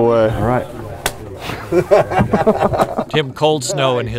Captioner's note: laughter